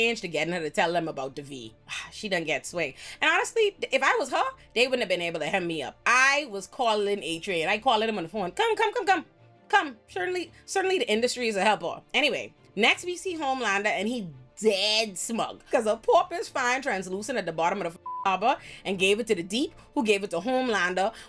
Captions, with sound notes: to get her to tell them about the V. She done get sway. And honestly, if I was her, they wouldn't have been able to help me up. I was calling Adrian. I call him on the phone. Come, come, come, come, come. Certainly the industry is a helper. Anyway, next we see Homelander and he dead smug. Cause a pauper's fine translucent at the bottom of the (beep) harbor and gave it to the deep who gave it to Homelander